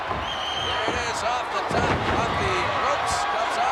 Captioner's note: wrestlers grunting; body thudding